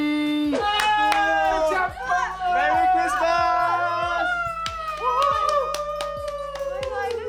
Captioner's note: happy excited Christmas cheer